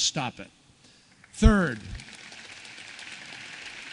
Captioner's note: applause